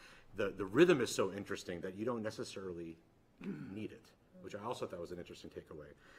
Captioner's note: clears throat